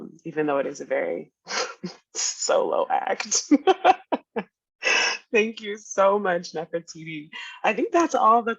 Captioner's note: laughing